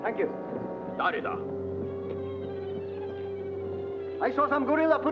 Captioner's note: man speaks Japanese